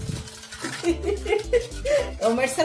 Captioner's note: laughs